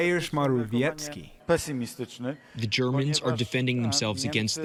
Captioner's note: through translator